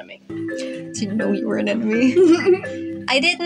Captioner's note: giggle